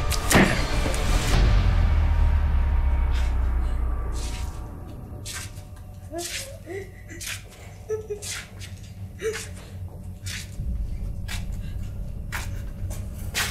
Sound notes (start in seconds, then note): 0.1 smacking; 3.4 girls crying